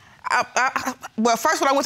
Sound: stutters

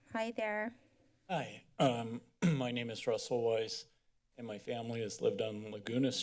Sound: clear of the throat

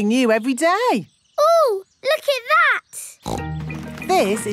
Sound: snorts

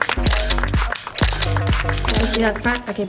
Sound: camera clicking

